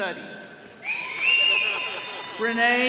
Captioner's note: all cheering